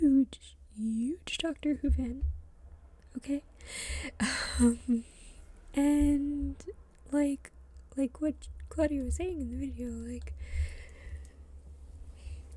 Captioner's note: laughs